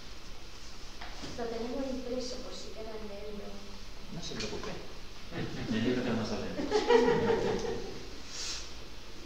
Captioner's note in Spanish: risas